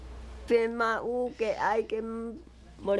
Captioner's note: foreign Language